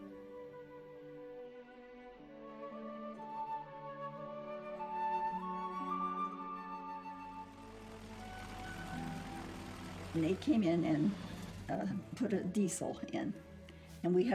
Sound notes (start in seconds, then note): 0.1 slow instrumental music; 6.7 plane engine roaring